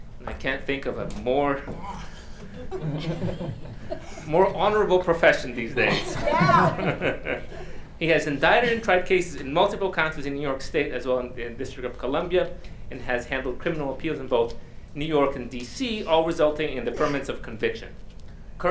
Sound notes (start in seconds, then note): 1.9 audience laughing; 5.6 laughing; 5.7 audience exclaiming